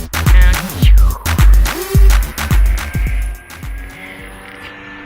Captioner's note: camerawoman making spaceship sounds with her mouth